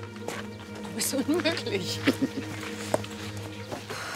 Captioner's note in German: lacht